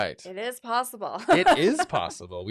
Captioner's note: laughs